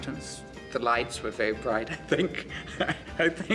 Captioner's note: laughs